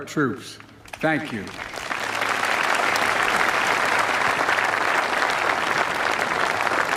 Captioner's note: applause